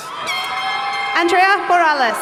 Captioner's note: horns honking